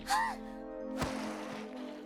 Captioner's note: gasps